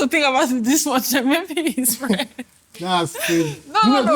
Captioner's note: laughs